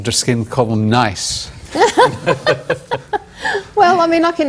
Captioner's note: laughter